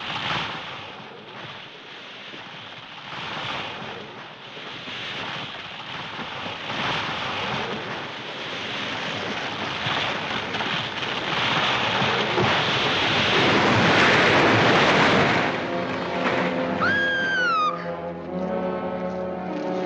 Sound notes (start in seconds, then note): 0.1 tree creaking; 11.0 tree creaking; 13.7 crashing; 16.8 screaming